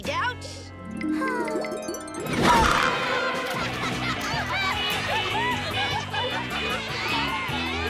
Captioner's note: Lizbeth sighs; children playing; fun music